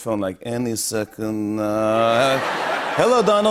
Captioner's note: Russian accent